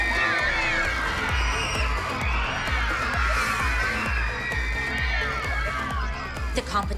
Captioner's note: shouting, cheering, squealing